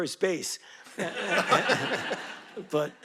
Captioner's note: audience laughing